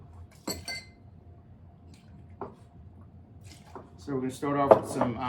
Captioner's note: glass clinks